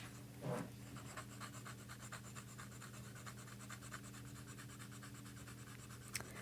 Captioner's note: pencil Writing